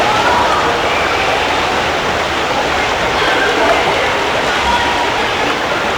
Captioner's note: running water, children yelling